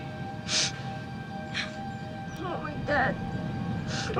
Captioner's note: crying